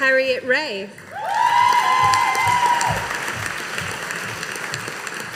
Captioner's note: audience applauding